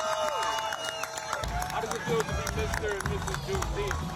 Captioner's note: crowd cheering